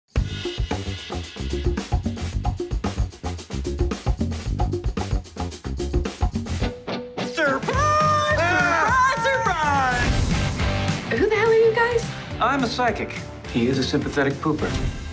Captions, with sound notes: Surprise! [screams] Surprise, surprise! Who the hell are you guys? I'm a psychic. He is a sympathetic pooper.